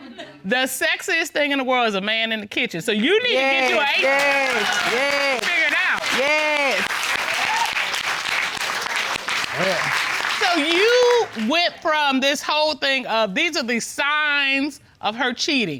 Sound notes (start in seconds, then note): 6.8 applause